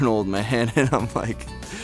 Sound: laughs

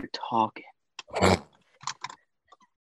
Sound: laughs

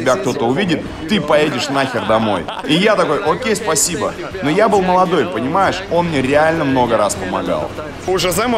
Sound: laughs

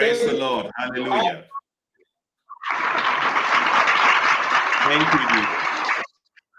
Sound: Applaus

